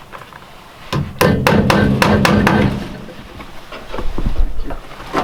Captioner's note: hammer thudding